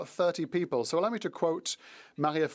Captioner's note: speaking French